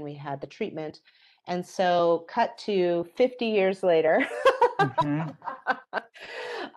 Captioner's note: laughs